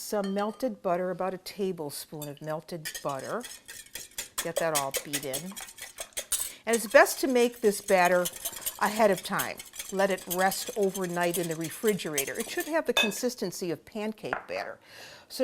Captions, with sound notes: --some melted butter, about a tablespoon of melted butter. Get that all beat in. [whisking] And it's best to make this batter ahead of time. Let it rest overnight in the refrigerator. It should have the consistency of pancake batter.